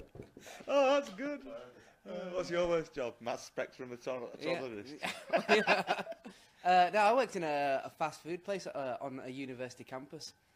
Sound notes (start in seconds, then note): 5.0 laughs